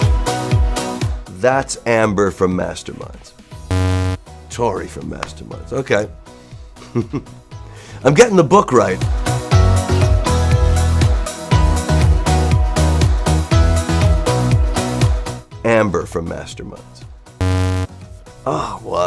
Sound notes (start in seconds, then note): 3.7 buzz; 6.8 laugh; 17.4 buzz